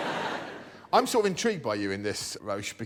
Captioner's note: laughter